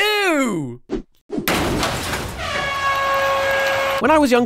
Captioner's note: slam + airhorns